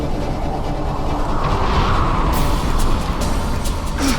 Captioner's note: wind blowing